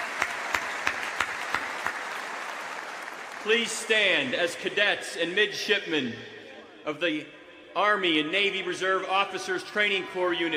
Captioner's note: applause